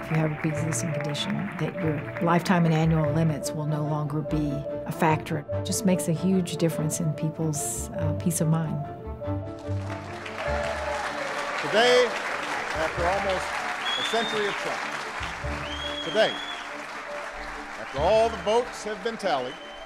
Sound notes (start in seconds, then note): 9.7 clapping